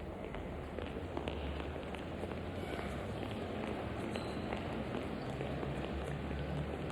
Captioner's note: feet clacking; vehicles humming